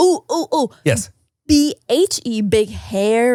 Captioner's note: none